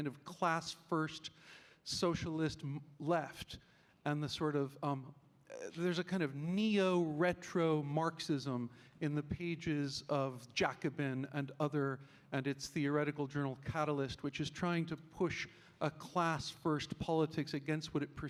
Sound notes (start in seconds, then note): none